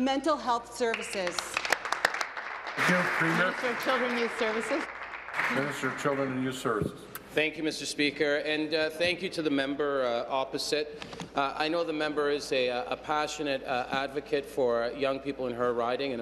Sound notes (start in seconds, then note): 4.4 applause